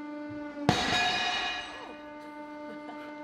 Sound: hydraulic press humms; lizard explodes with a metalic bang; slightly evil chuckle

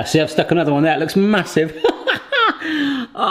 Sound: laughs

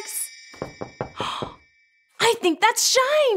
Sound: knocking on door

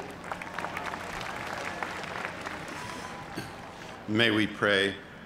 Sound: cheers and applause

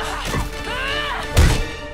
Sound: Vax grunts

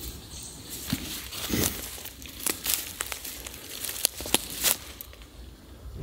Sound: foliage breaking underfoot

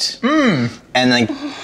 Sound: humming

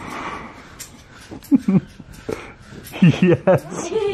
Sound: laughs

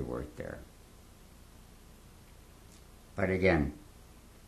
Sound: pauses for 3 seconds

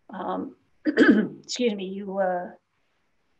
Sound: clears throat

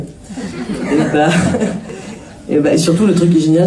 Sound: laughs

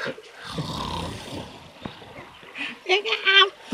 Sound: snores

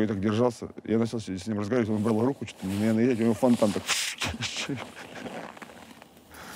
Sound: laughs

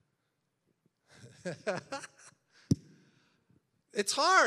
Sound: laughs

